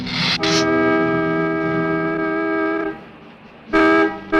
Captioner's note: car honking